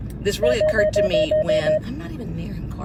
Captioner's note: car beeping